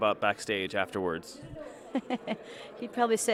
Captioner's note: laughs